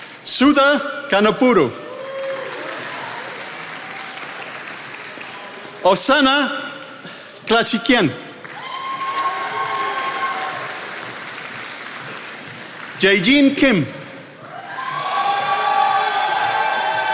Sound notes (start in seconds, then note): 1.4 attendees applauding; 8.9 attendees applauding; 14.4 attendees applauding